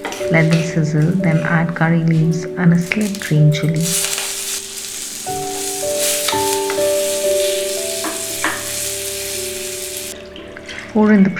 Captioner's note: sizzling sounds